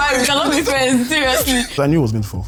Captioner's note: laughs